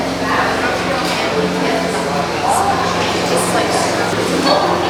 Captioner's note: crowds talking